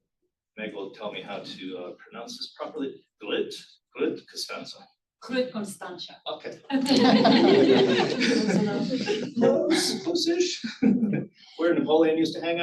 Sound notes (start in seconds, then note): 3.1 speaks in foreign language